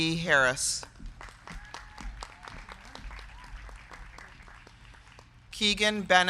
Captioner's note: crowd clapping; crowd cheering